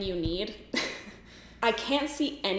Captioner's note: giggles